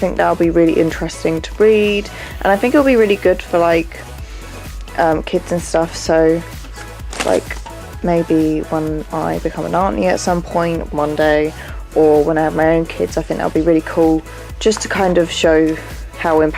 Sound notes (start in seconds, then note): none